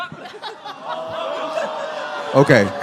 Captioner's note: audience: awww/ohhh